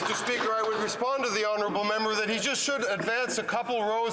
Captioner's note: some Applause